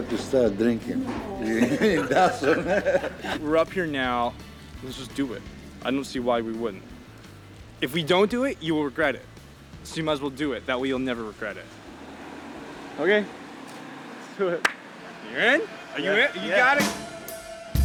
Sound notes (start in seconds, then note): 0.0 laughing